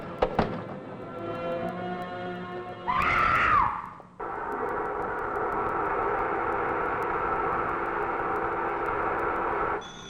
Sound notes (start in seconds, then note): 2.9 woman screams loudly; 4.0 machines humming